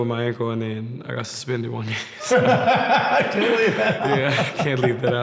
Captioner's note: laughs